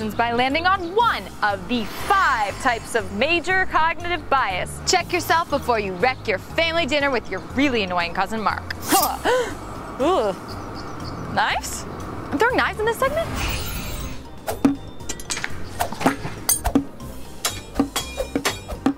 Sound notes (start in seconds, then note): 9.3 gasps